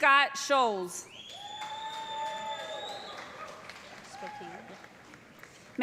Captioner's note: cheers and applause